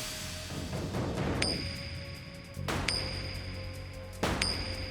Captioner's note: dramatic music; coin echoes; dramatic music continues